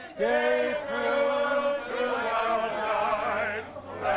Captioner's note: crowd chanting